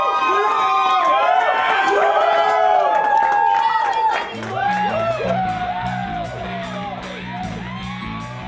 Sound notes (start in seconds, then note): 2.0 cheering